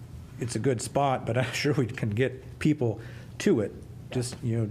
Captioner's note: laughter